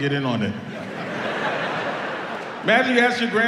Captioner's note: audience laughs